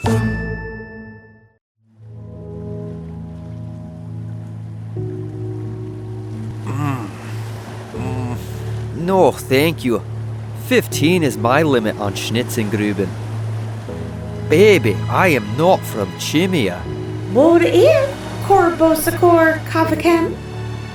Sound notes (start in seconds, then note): 0.0 scene change music; 1.9 tapping noise, hover hum; 7.9 groan